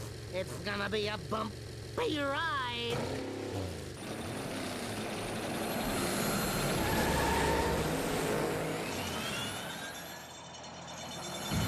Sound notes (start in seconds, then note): 4.4 engines revving; 6.7 tires screeching; 9.6 metallic squeaking